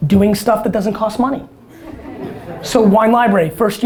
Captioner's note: audience laughter